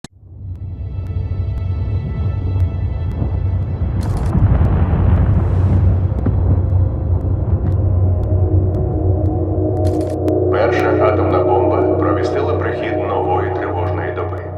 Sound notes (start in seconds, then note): 4.2 booming echo; 6.1 explosion reverberates; 7.4 tense music playing